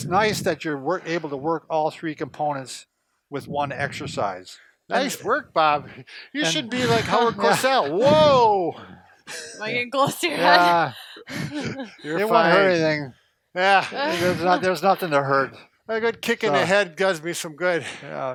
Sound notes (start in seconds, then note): 6.4 laughs